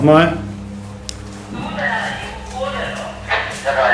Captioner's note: radio messages